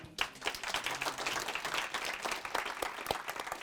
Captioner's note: applause